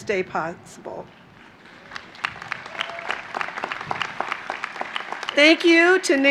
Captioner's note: applause